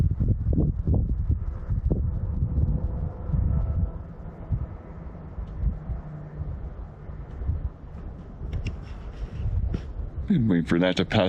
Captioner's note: wind